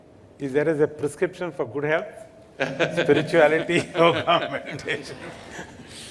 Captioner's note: laughs